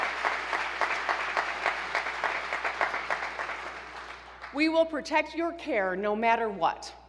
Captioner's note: applause